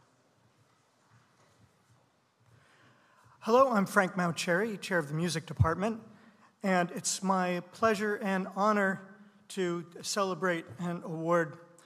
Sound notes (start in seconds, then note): none